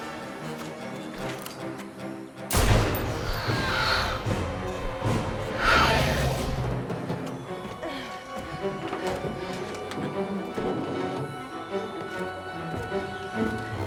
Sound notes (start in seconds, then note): 0.1 dramatic music; 2.5 gun fires; 3.4 creature screeches